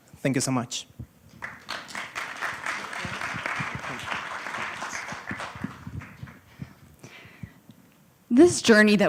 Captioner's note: applause